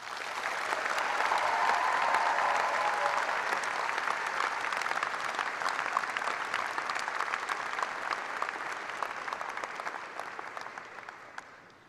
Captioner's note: cheers and applause